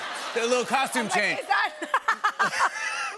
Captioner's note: laughter; laughter